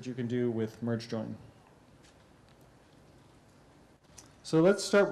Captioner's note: pause